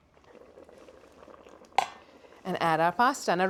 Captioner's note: bubbling